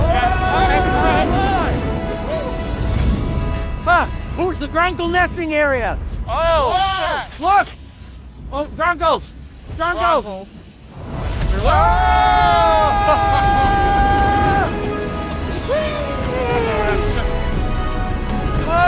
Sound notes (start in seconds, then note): 11.5 screaming